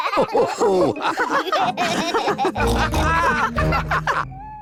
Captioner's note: all laugh